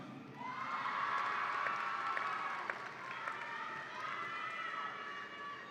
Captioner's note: audience applauds and cheers